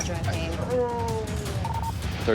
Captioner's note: groaning